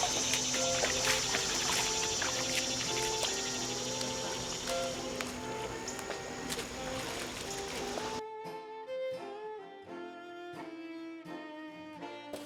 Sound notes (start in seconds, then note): 6.5 insects hum; 6.5 water splashes